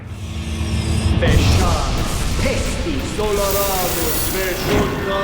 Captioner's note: speaking foreign language